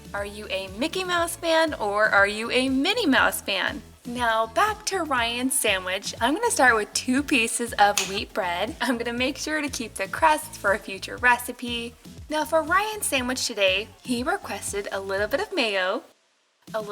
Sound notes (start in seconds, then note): 7.9 snaps